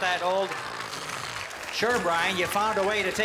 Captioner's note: snoring